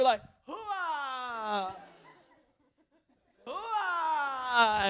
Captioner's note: laughter